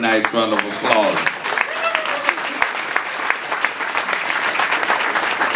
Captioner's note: audience applauding